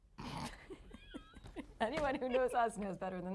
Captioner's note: laughing